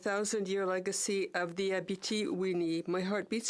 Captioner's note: speaking French